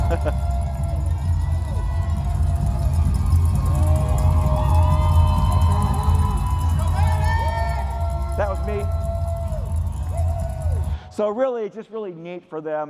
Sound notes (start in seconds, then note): 6.8 cheers; 9.0 applause